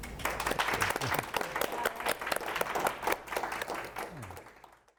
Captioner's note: audience applauds